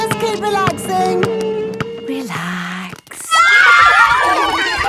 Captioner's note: kids screaming; laughter